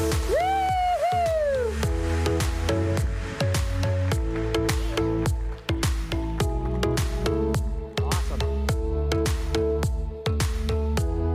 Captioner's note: applause